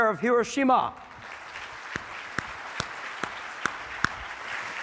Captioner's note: audience clapping